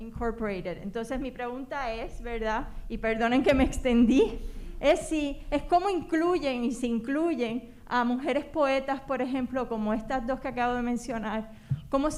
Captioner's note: speaking spanish